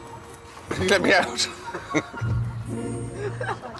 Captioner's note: chuckling